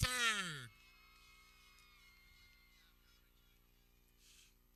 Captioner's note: people cheering